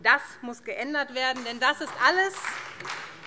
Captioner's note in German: Beifall SPD